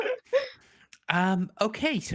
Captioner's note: laughing